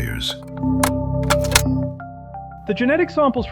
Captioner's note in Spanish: clics del reproductor de cintas